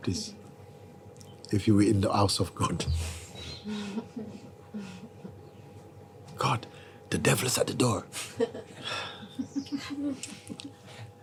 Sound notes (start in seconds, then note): 8.8 sighs; 9.2 laughter